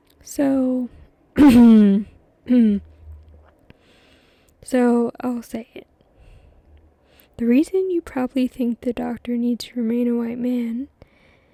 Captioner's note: clears throat